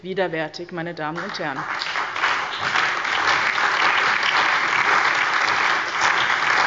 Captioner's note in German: Allgmeiner Beifall